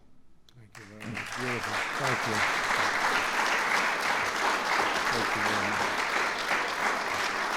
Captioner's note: applause